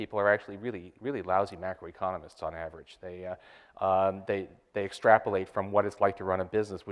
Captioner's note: none